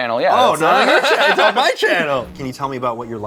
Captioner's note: laughter